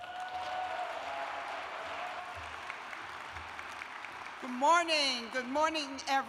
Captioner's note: cheers and applause